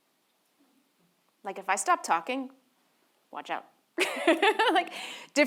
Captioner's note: laughs